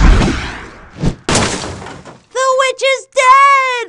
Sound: metal crashing

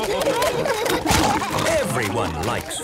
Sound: splashing

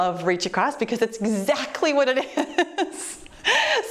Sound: laughs

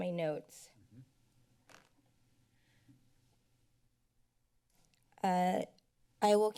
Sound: silence

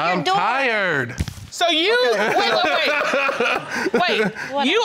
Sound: laughing

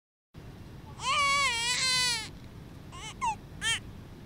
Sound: baby crying

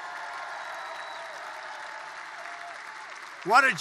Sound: applause

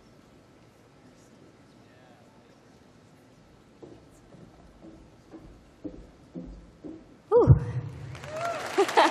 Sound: cheering

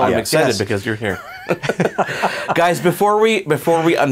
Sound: laughs

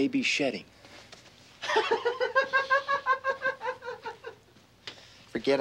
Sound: laughing

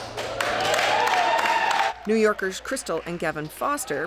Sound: cheers and applause

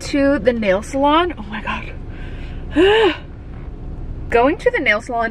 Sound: gasps

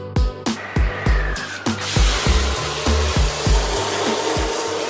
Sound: whooshing noise

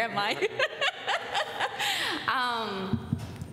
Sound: laughs

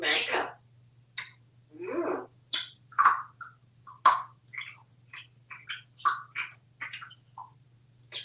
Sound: eating sounds

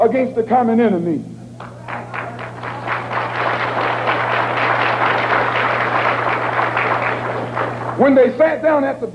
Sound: applause

